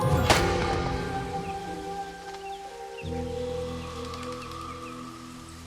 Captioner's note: birds chirping